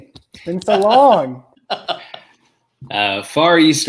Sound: laughing

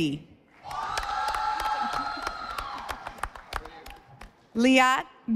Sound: audience applauding

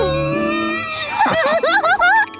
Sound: laughing

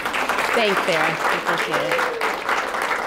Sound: applause

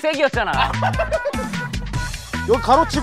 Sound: laughing

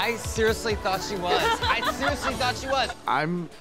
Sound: laughing

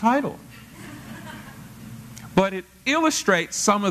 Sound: laugh

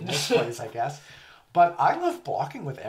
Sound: laughs

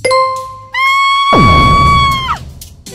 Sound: Peach screams

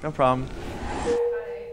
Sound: text dings

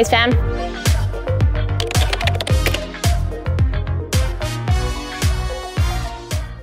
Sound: upbeat music; keyboard clatter

